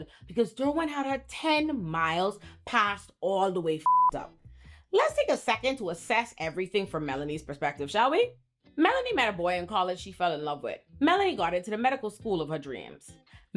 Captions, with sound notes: because Durwin had her 10 miles passed all the way (beep) Let's take a second to assess everything from Melanie's perspective, shall we? Melanie met a boy in college she fell in love with. Melanie got into the medical school of her dreams.